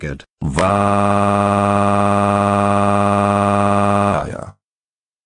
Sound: Clyde crying

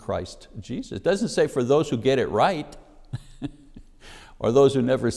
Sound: laughs

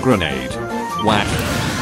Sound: whack

